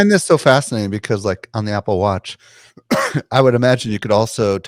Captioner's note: coughs